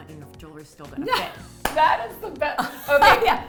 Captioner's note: laughter